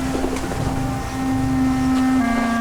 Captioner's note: birds chirping; dramatic music